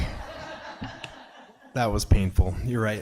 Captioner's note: people laughing